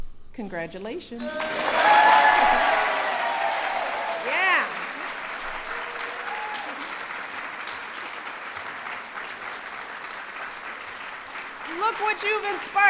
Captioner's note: applause